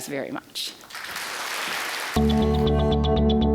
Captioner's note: applause; bright, ambient tonal music